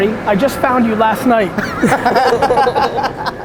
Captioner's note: group laughter